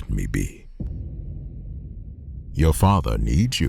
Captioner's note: cinematic hit